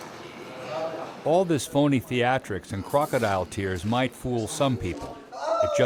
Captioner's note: voiceover